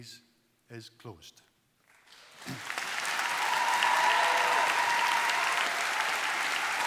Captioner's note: applause